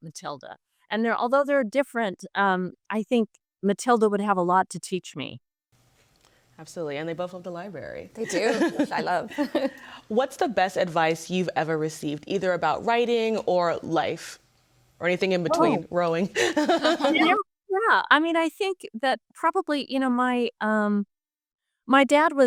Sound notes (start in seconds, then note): 8.2 laughs; 16.4 laughs